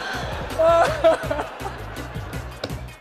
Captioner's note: laughing